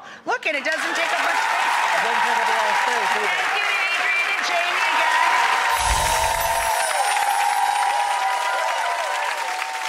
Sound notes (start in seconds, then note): 1.8 audience clapping; 5.1 audience clapping; 5.8 twinkling sound